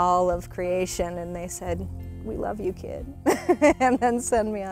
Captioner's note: laughs